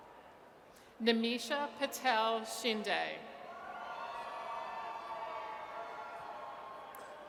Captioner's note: audience cheers